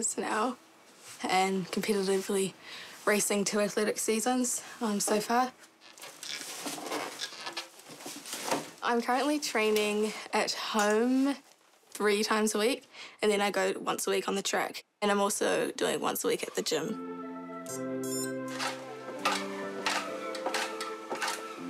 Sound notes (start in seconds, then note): 5.7 wheelchair creaks; 17.7 device beeps; 18.5 wheels whirr